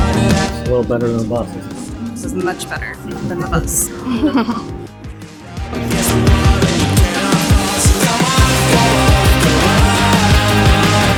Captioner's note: laughter